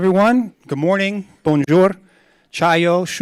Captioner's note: speaks in foreign languages